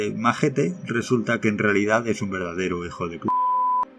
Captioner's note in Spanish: beep